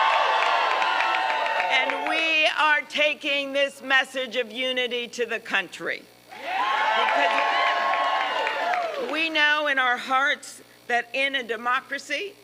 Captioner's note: applause